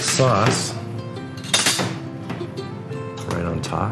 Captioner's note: clinking